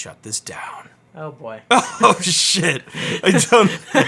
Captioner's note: laughs